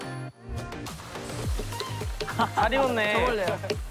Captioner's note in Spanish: Tap tap tap